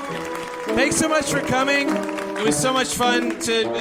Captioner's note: clapping and cheering